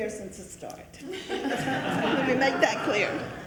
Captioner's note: attendees laughing